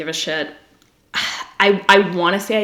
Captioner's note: sighs